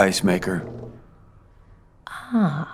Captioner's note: rumbling stops